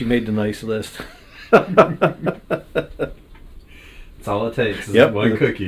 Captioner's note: laughing